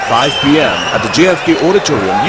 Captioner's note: wild applause and cheering for 22 seconds